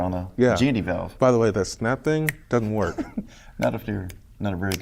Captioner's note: snaps Fingers